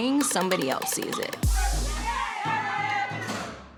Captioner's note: inmates cheering